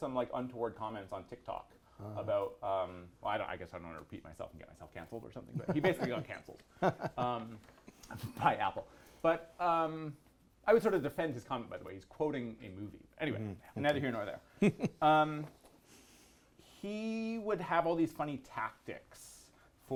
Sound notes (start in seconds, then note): 6.7 laughs